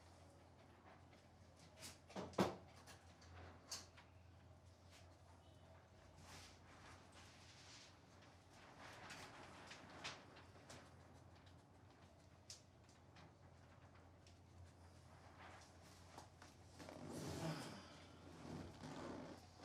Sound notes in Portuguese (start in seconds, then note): 0.0 silêncio; 17.2 suspiro